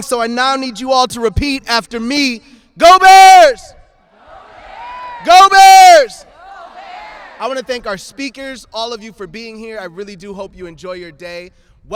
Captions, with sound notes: so I now need you all to repeat after me: Go Bears! Go Bears! (everyone shouting go Bears) I want to thank our speakers, all of you for being here. I really do hope you enjoy your day.